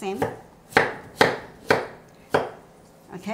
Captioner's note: chopping sounds